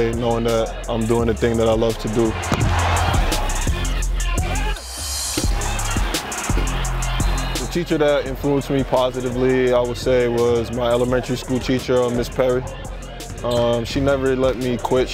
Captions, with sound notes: knowing that I'm doing the thing that I love to do. (upbeat music) (crowd cheering) The teacher that influenced me positively, I would say was my elementary school teacher, Ms. Perry. She never let me quit.